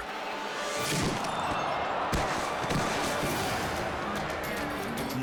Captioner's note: body thudding; head thudding